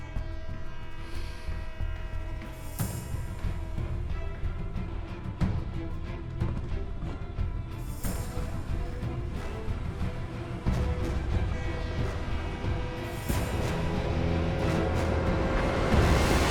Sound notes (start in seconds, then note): 10.8 train horn